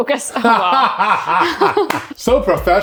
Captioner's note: laughing